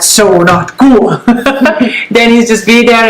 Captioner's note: laughs